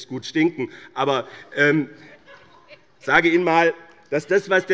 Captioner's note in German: Heiterkeit bei Abgeordneten der CDU